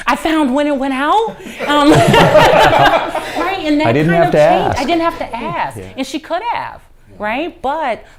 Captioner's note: laughter